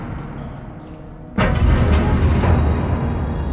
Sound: mechanism moving

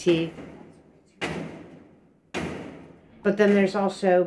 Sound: loud bangs

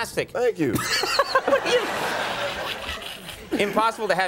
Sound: laughing

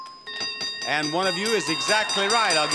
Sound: bell dinging

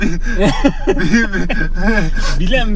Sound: laughs

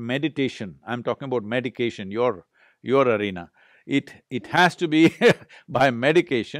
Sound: laughs

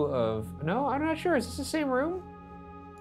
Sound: none

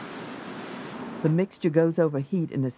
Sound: voiceover

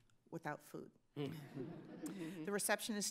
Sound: laughs

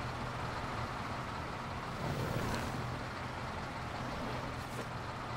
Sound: engine idles; leather creaks

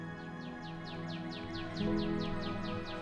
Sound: birds chirping; gentle serene music

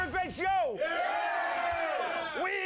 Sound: audience cheering

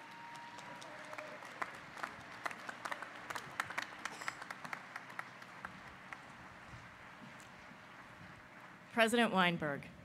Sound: applause

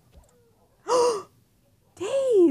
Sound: gasp

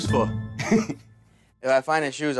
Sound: chuckles

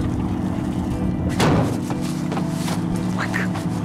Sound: thud

